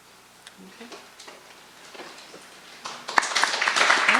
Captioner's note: applause